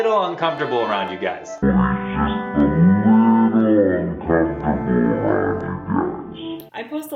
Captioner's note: slow motion voice effect